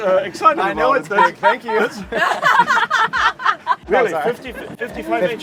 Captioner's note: women laugh